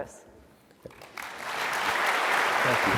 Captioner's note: applause